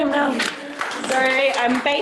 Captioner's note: applause